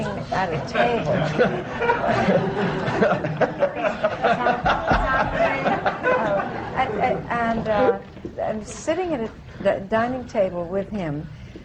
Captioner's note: laughter